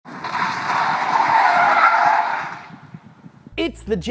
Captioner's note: tires accordingly screeching